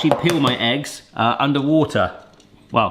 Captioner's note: egg banging